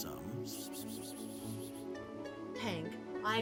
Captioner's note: whispering